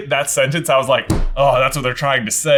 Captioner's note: thuds